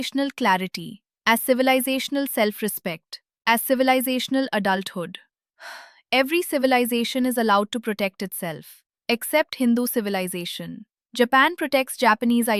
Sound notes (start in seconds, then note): 5.6 exhales